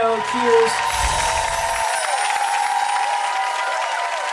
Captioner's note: crowd applause